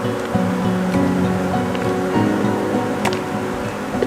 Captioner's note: bees swarming